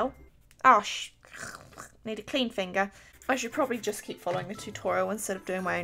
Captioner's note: frustrated throat noise